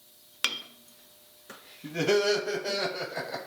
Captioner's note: metal clangs; menacing laughs